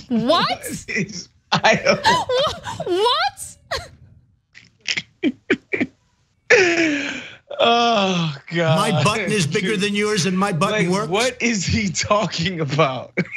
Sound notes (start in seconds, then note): 1.5 laugh; 13.1 laugh